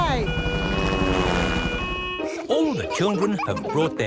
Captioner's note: siren wailing